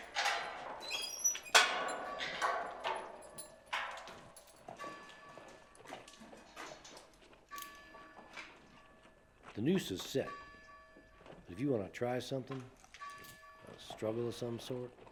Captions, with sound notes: (door creaking) (bell tolling) The noose is set. If you wanna try something, a struggle of some sort,